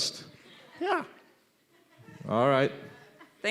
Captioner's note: laughing